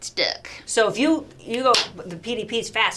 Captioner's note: claps